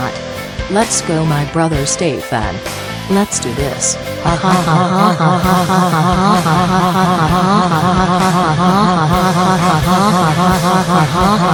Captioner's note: evil laughs